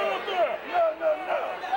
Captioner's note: Vader yelling